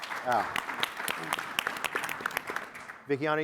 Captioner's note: audience applauding